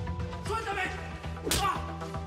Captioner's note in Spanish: puñetazo